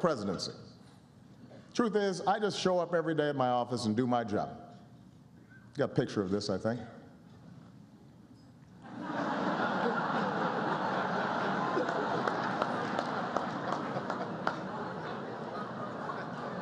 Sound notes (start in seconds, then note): 8.8 laughter and applause